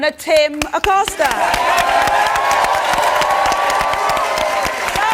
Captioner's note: audience applauds